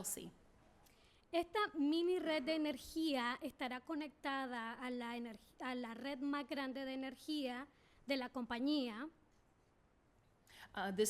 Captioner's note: speaking spanish